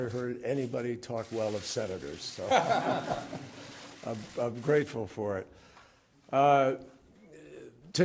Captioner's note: laughter